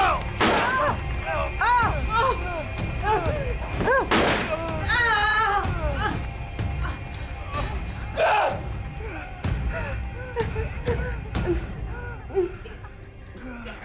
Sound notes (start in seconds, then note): 0.1 Nathan grunting; 0.4 gunshot firing; 0.9 Emma grunting; 0.9 gunshot firing; 5.6 intense music